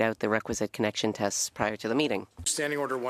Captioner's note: speaking French